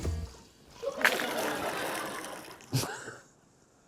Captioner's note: chuckles; laughter